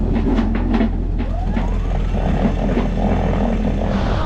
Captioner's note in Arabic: زئير المحرك